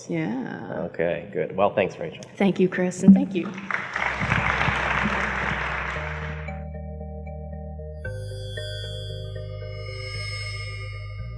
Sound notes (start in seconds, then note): 3.3 applause; 6.0 upbeat music